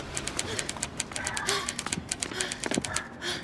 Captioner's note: rue panting